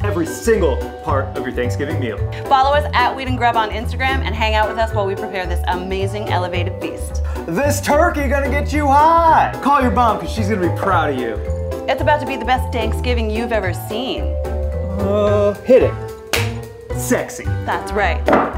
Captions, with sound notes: every single part of your Thanksgiving meal. - Follow as @weedandgrub on Instagram and hang out with us as we prepare this amazing elevated feast. - This turkey gonna get you high. Call your mom, 'cause she's gonna be proud of you. - It's about to be Danksgiving you've ever seen. - Ohh, hit it. (whack) Sexy. - That's right.